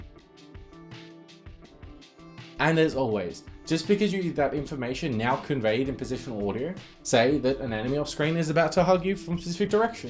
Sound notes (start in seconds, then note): none